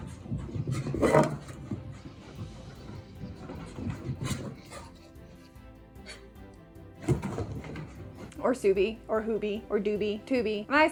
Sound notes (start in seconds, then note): 1.2 breathing heavily